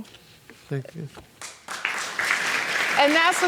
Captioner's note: audience applauds